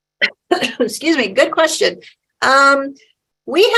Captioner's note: coughs